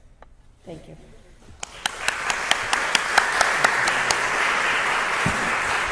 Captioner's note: applause